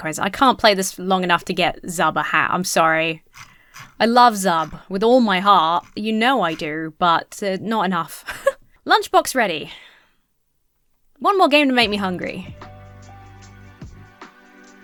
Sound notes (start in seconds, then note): 8.2 giggles; 11.8 downtempo music